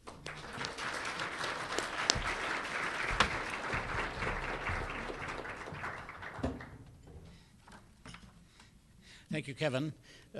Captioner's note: applause